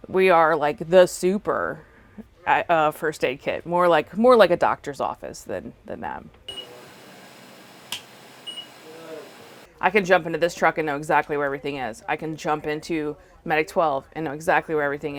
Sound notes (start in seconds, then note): 6.5 beeping